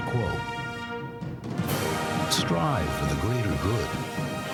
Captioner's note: plane humming